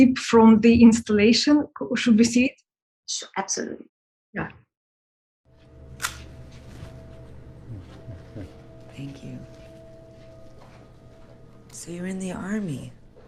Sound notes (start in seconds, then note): 6.0 camera click; 8.2 foreboding instrumental music